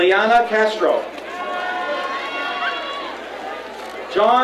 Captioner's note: crowd cheering